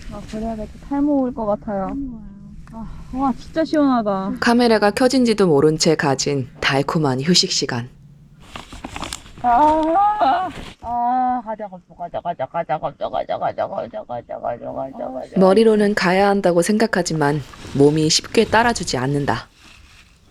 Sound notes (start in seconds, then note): 9.5 sound of not wanting to go